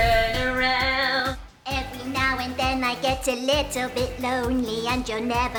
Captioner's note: child's voice